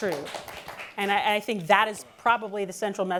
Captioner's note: applause